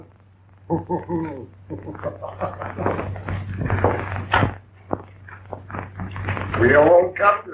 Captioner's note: laughing